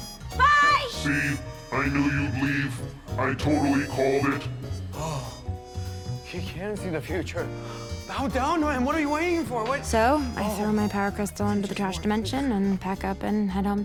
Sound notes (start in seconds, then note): 6.2 gasps